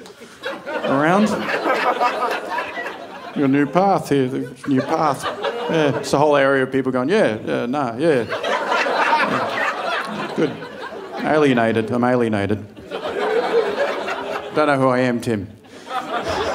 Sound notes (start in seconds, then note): 9.9 audience laughing; 13.6 audience laughing